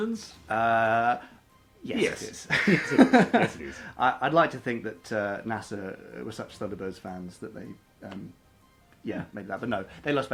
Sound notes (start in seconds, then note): 2.4 laughs